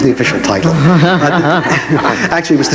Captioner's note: laughs